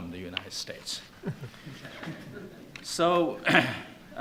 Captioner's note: laughing